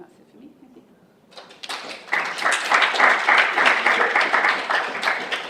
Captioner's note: audience applauding